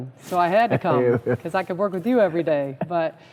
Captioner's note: laughter